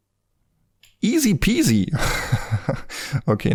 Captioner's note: laughs